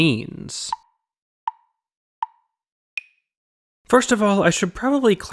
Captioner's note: tick, tick, tick, tick, tock